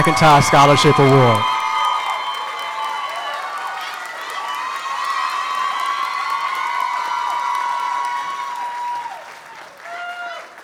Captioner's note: applause